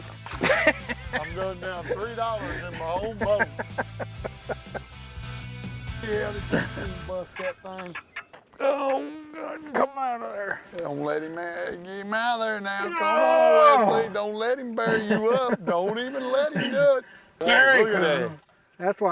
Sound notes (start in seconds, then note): 4.0 laughs